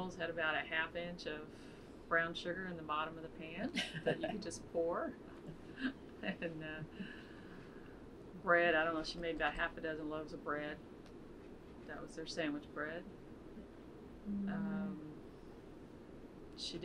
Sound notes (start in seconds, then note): 5.4 laughs